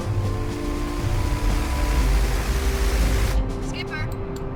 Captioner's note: plane blades whirring